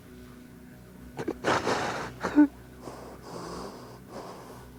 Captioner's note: both crying